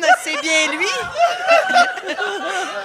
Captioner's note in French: rires